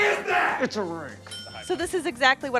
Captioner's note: ITYSL Tim, muttered